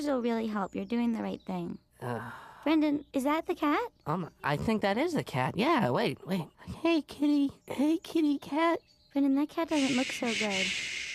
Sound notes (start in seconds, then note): 2.1 sighs